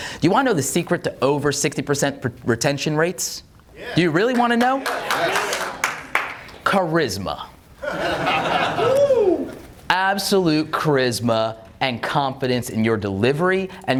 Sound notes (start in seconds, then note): 7.8 audience laughs